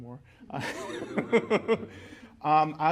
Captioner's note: laughter